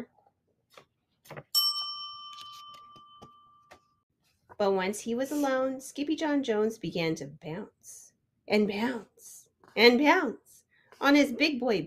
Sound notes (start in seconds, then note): 1.5 bell dings